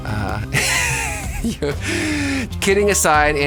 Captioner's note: person laughing